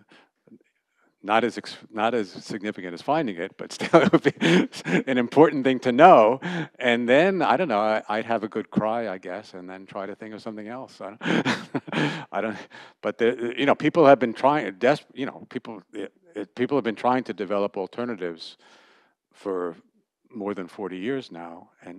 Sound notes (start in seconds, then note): 3.7 laughter; 11.2 laughter